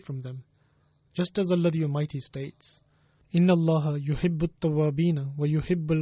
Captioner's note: Arabic